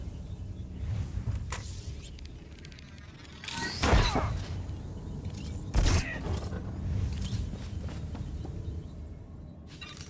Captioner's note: gunfire